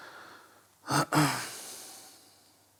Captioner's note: clears throat